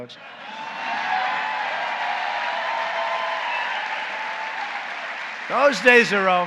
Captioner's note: applause